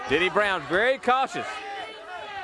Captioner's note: crowd chatter